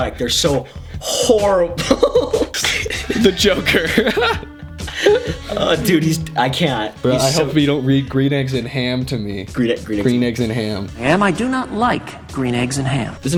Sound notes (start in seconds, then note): 1.7 both laughing; 3.2 while laughing